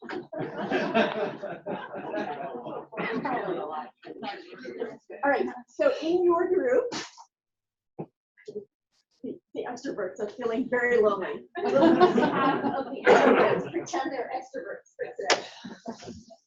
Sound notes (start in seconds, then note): 11.5 laughter